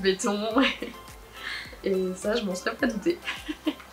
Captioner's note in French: rires